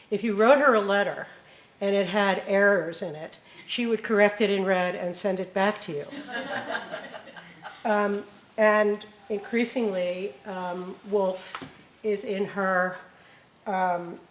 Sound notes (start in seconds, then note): 6.0 laughing